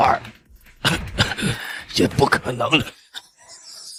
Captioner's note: cough cough